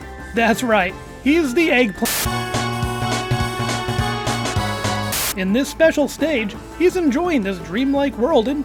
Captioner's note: error beep